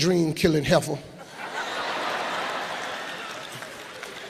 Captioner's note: laughing